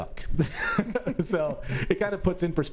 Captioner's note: laughs